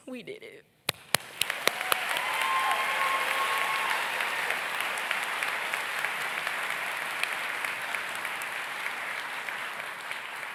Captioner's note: audience cheers